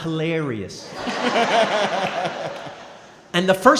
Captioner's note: & crowd laughing